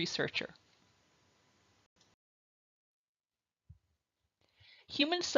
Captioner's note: silence